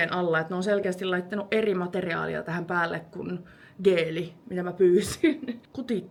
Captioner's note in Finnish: naurua